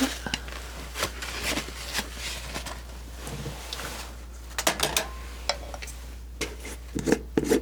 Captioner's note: scratching